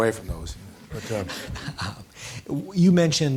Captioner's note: laughing